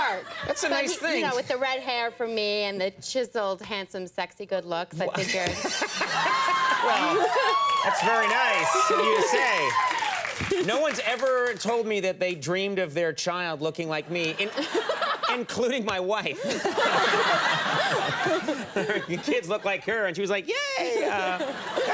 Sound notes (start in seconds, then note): 5.1 Conan laughing; 5.8 audience applauding; 16.3 Bryce laughing; 16.3 audience laughing